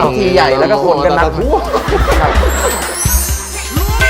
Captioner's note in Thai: เสียงหัวเราะ